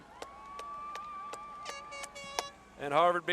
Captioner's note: horn blowing